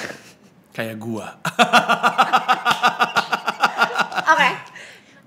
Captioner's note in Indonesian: ketawa